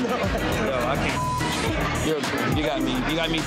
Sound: beeps

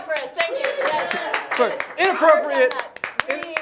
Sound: audience cheers

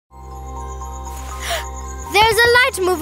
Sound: gasps

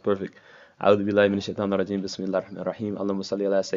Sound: non-english speech

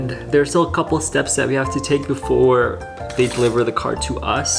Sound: key sizzles

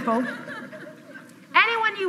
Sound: audience laughs

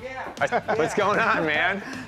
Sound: laughter

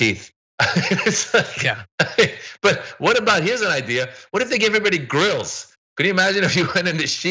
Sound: laugh

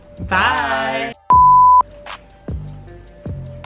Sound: beep

